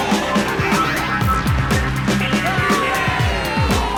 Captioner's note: students cheering